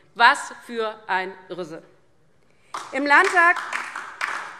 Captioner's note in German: Beifall DIE LINKE